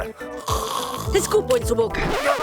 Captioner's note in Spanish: Suena su garganta